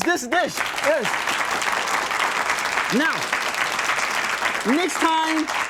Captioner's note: audience clapping